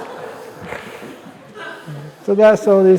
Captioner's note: laughter